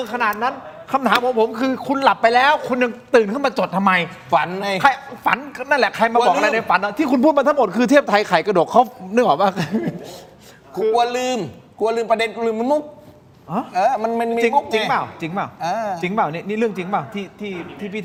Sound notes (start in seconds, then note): 9.4 laughs